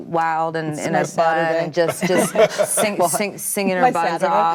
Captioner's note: all laughing together